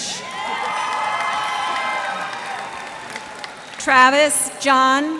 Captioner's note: cheers and applause